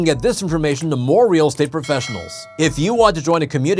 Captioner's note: bell dinging